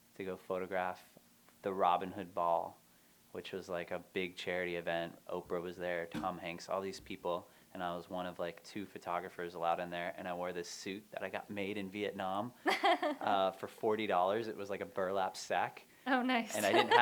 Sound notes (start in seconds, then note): 12.6 laughter